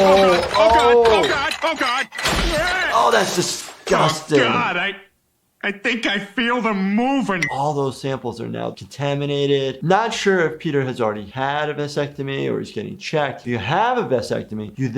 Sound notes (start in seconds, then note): 2.2 thudding; 2.2 yelling